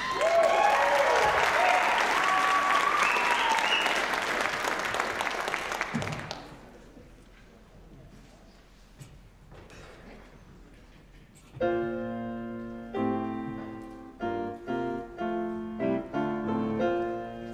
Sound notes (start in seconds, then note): 0.0 applause, cheering; 5.7 applause; 17.3 heartfelt piano music